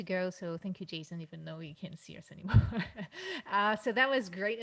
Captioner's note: laughs